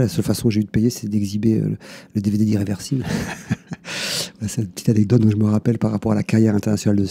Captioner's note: laughs